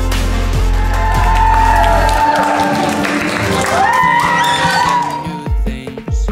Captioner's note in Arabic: الضيوف يهتفون ويصفقون